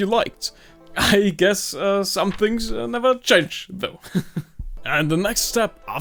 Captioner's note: chuckles